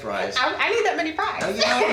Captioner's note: laughs